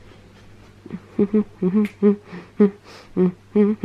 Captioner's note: humming